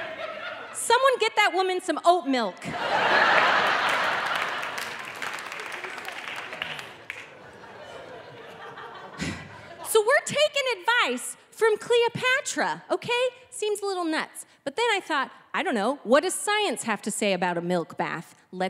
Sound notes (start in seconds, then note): 4.1 audience laughing